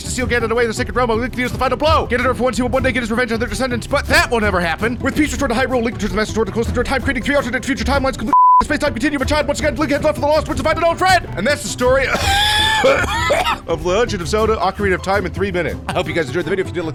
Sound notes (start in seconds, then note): 12.0 coughing